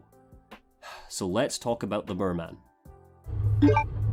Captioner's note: sigh